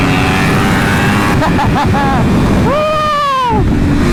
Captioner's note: laughs Hysterically